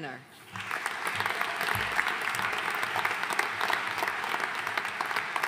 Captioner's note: audience applauding